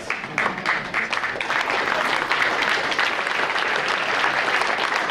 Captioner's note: audience applauding